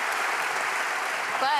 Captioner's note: applause